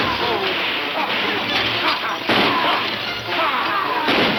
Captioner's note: cowboys shouting